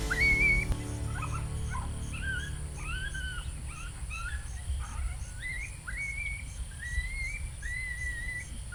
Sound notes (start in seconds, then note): 3.3 coyote pup distress call